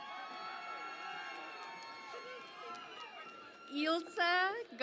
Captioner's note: cheering and Applause